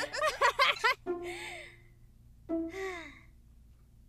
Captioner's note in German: Gelächter